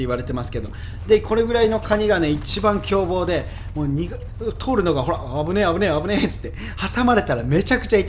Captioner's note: haha